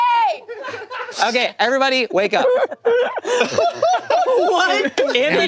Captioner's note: group laughing